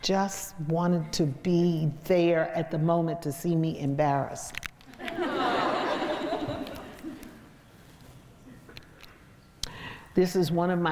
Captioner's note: crowd laughs